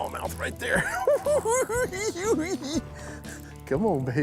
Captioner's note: giggles